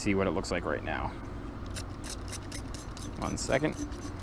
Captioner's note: more spritzing